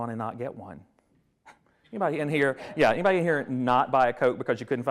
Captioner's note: scoffs